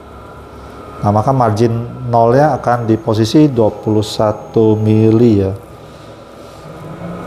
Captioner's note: printer machine noise